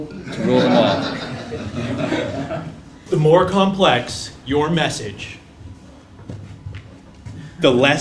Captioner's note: laugh